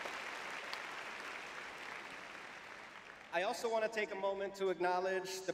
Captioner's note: cheering; applause